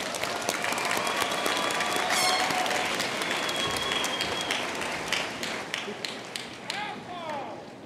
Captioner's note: applause